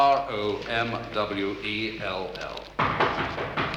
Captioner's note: knock on door